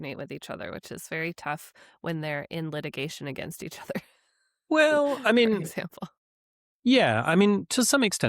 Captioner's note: chuckles